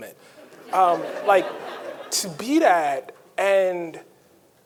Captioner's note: audience laughing